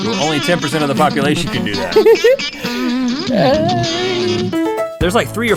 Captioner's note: electric guitar solo; giggles